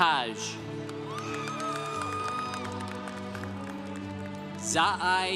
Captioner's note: congregation cheering